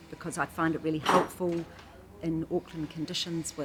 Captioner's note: metal clatters